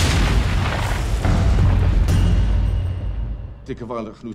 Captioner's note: explosions booming